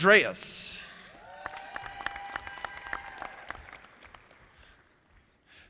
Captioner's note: audience applauding